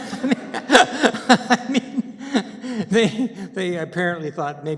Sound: laughter

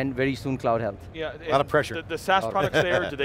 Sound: laughing

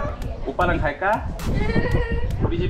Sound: laughs

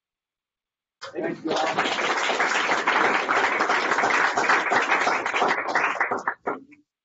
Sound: applause

